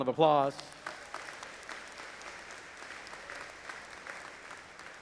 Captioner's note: audience applauding